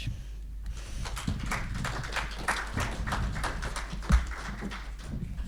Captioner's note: audience applauding